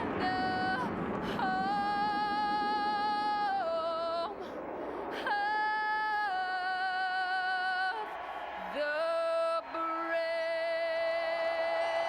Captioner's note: cheers and applause